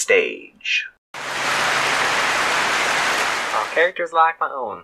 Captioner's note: clapping